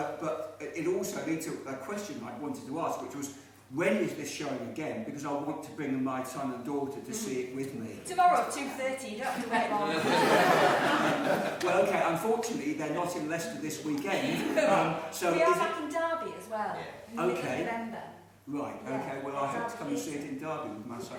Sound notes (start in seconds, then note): 9.3 laughing